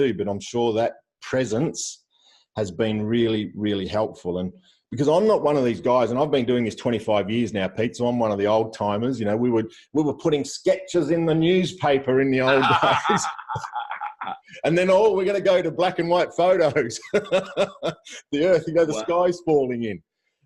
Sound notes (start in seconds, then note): 12.4 laughs; 16.9 laughs